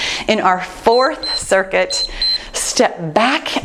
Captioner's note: timer beeps